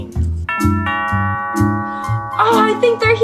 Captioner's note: doorbell